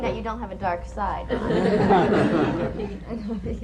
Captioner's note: laughter